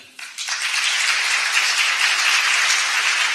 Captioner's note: applause